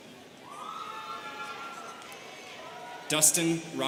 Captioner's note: students cheering